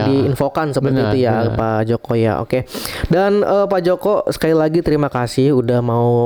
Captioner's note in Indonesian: berdehem